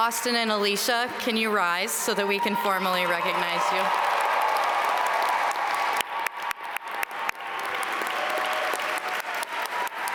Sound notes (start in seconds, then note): 4.4 audience cheer and applaud